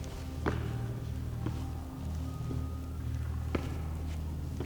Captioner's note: footsteps thudding